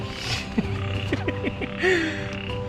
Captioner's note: laughing; frogs croacking